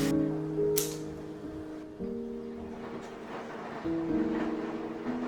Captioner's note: the sound of the washing machine